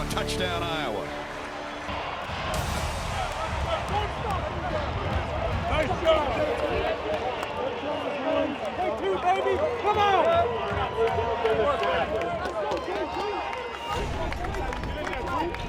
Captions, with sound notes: Touchdown, Iowa. [ team cheering ] - Nice job! - Take two, baby. Come on! [ clapping ]